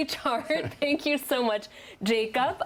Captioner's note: laughter